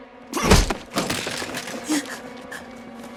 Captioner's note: pistol crack